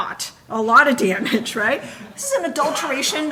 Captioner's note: audience laughing